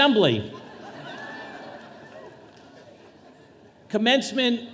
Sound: audience laughing

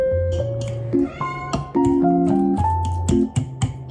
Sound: Leo meows

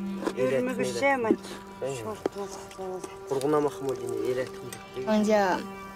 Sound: family speaking Uyghur

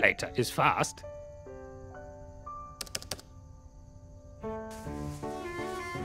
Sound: gentle music; buttons clicking; gentle music

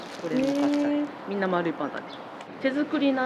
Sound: laughs

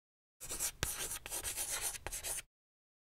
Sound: chalk writing

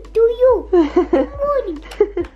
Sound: laughs

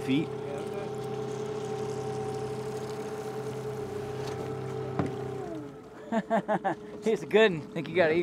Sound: trolling motor humming

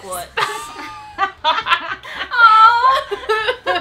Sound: laughing

